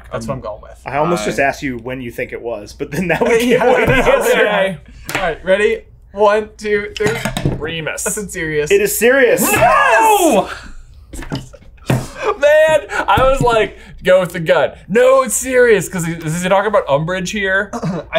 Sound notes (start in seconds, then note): 3.0 laughs